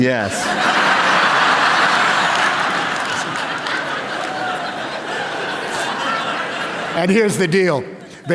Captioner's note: laughter